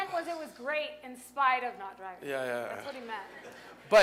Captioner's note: laughter